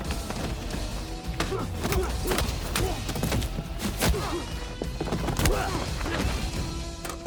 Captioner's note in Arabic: قتال، شخير; يفتح باب السيارة